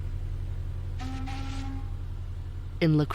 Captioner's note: ship blows horn, ship engine hums